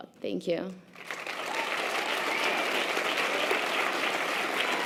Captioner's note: audience applause